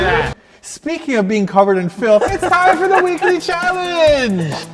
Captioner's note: laughs